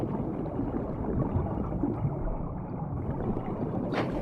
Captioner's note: oxygen bubbling